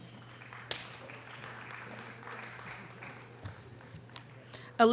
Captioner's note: audience applause